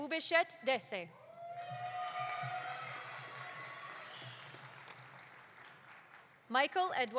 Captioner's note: audience cheering; audience applauding